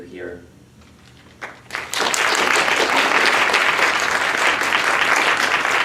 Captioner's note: applause